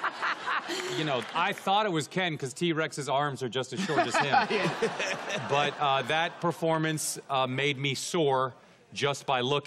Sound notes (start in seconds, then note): 3.8 laughing